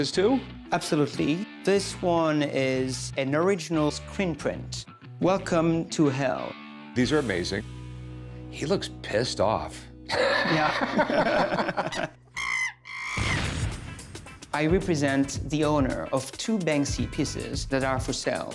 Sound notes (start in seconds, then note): 10.1 laughs; 12.3 chimp squealing